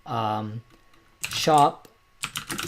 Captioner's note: typing